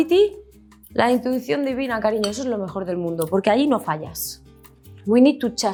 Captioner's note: speaks in Spanish